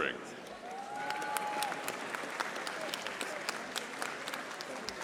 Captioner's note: audience applauding